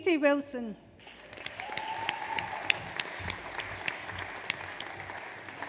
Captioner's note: audience applauds